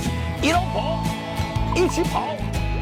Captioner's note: in Shanghainese